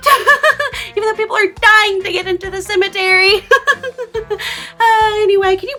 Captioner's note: laughs; laughs